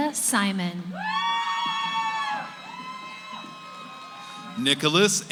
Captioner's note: cheering